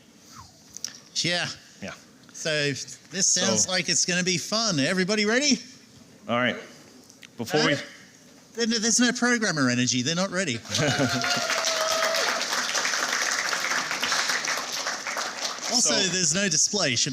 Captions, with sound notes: Yeah. Yeah. So this sounds like it's going to be fun. Everybody ready? All right. Before we-- There's no programmer energy. They're not ready. [APPLAUSE] Also, there's no display.